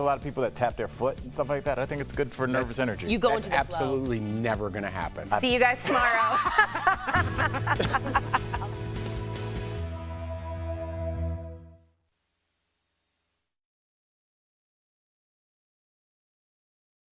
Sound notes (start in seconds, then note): 9.5 laughter